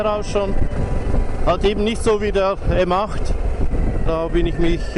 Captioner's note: engine